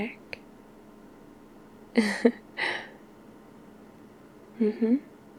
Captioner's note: laughs